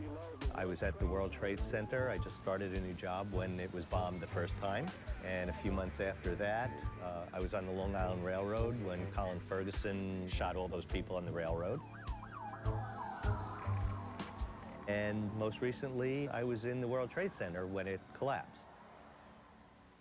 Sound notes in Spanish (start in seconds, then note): 12.3 sirenas ululando